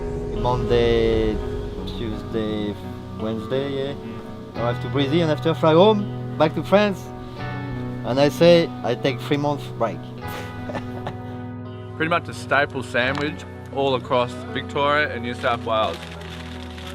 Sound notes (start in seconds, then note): 10.2 laughs